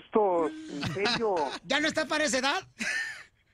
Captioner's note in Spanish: risas